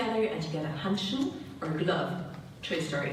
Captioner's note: speaking German